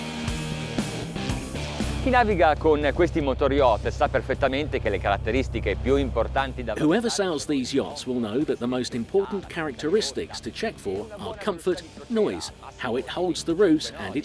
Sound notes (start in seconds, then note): 2.2 speaking in foreign language